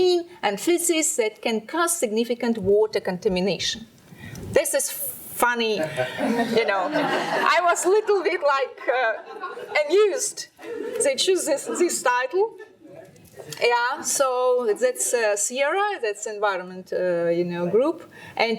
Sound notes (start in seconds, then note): 5.8 laughing